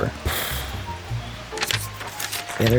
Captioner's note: huffs, flips pages